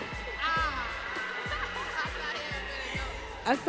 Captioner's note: audience cheering